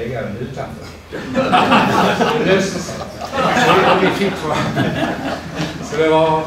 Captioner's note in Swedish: Skratt